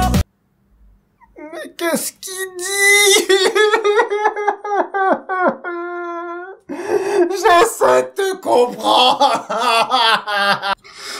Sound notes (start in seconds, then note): 5.4 crying